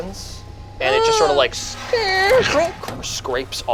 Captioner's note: metal scrapes